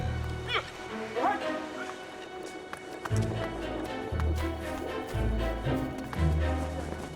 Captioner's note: dramatic music; man shouting